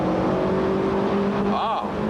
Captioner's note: vtec noises